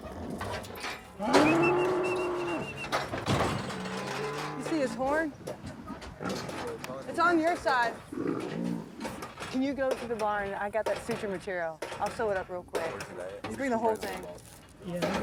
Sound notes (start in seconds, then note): 1.2 cow lowing; 1.4 person whistling; 3.3 gate slamming